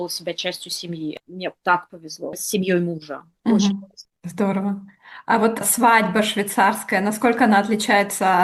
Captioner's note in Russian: откашливается